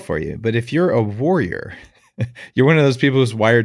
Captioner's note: laughs